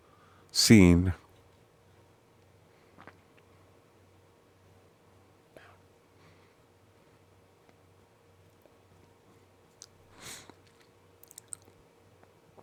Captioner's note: silence